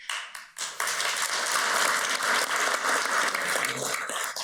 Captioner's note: audience applauds